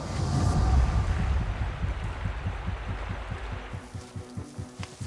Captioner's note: water flowing